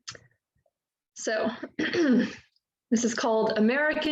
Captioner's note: clearing throat